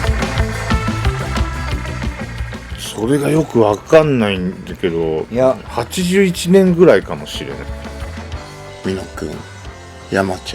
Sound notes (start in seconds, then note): 3.1 speaking in foreign language; 7.8 upbeat music